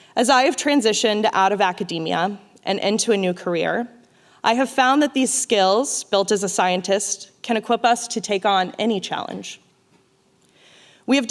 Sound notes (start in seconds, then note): none